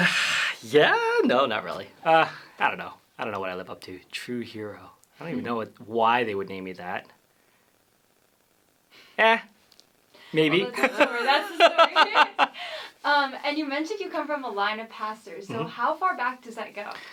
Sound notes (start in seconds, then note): 10.6 laughs